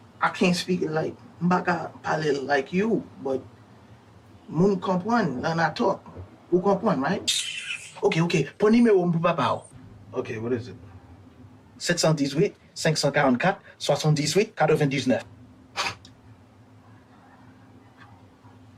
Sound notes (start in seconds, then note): 1.3 speaking in Creole; 5.1 speaking in Creole; 8.6 character speaking in Creole; 12.5 character speaking in Creole